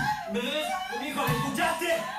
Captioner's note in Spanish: sollozos